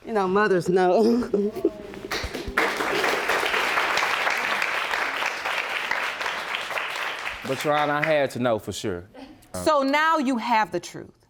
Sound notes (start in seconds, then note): 2.0 audience applauding